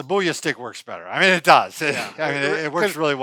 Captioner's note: laughs